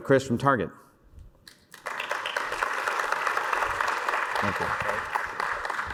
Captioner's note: applause